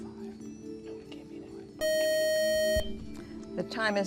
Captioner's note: buzzer